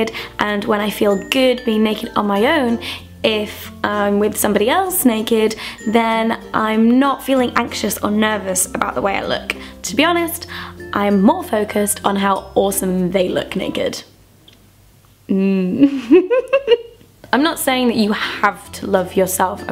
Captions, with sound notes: and when I feel good being naked on my own, if I'm with somebody else naked, then I'm not feeling anxious or nervous about the way I look. To be honest, I'm more focused on how awesome they look naked. (music stops) (laughing) I'm not saying that you (playful music) have to love yourself.